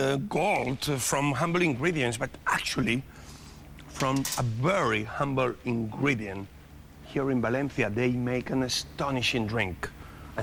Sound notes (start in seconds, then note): none